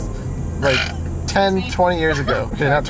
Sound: belches

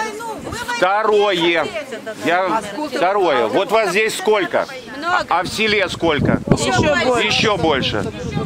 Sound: crowd

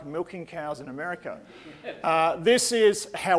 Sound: audience laughing

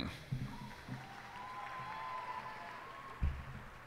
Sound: cheers and applause

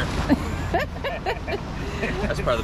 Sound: laughs

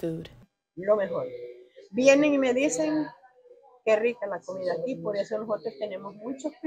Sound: in Spanish

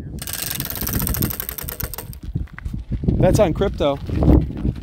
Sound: wheel whirring

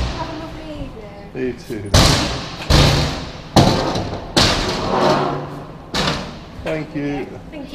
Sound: ramp banging noises

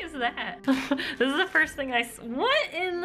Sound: laughing

